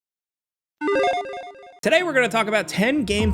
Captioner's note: electronic chiming